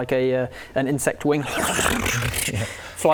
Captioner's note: chaotic flapping noises